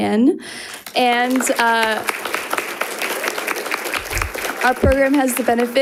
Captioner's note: audience applauding